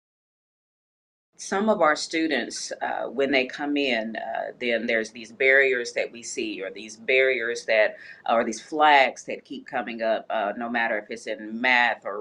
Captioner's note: speaking on video